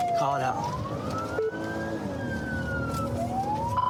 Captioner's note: siren blares